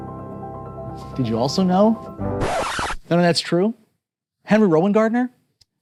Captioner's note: record scratches